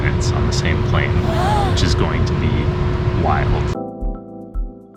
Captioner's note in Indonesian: Terkesiap